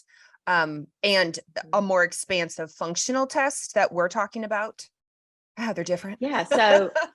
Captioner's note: laughs